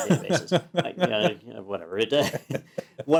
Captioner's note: laugh